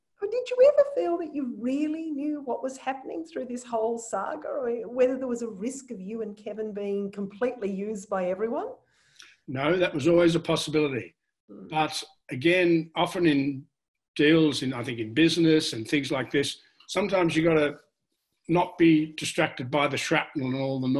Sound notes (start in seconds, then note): none